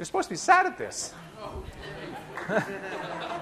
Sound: laughter

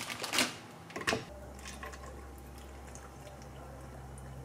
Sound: milk glug glug glug

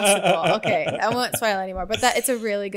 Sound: laughs

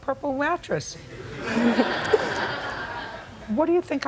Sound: laughter

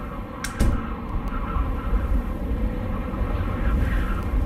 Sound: winds blowing

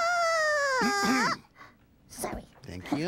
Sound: clears throat

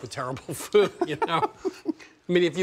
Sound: laughs

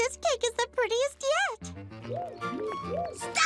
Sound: laughs

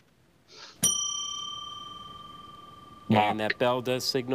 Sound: bell ringing

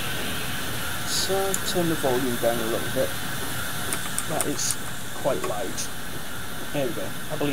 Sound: keyboard click noise

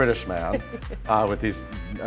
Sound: giggling

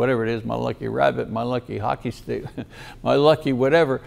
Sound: chuckles

